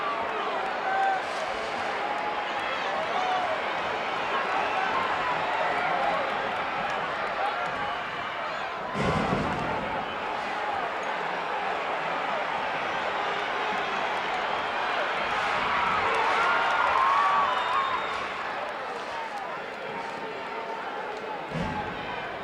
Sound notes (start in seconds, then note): 0.2 audience chattering continues; 8.8 mat banging; 15.9 audience cheering